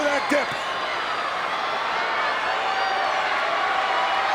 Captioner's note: crowd cheering